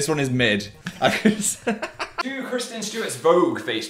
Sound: laughing

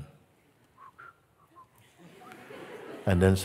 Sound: Mooji whistles; laughter

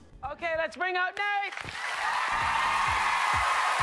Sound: cheers and applause

